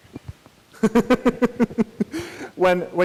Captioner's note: laughs